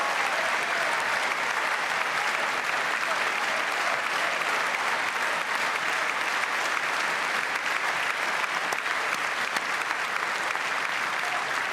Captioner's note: cheers and applause